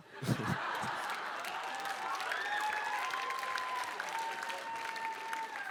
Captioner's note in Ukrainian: оплески